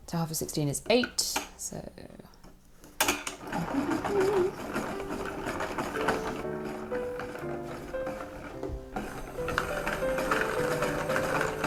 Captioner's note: starts to hum a little tune while still winding